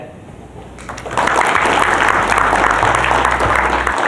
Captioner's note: applause